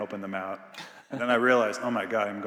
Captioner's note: Biz laughing